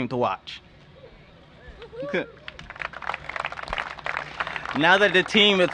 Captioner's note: cheers and applause